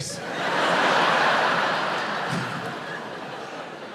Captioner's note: audience laughs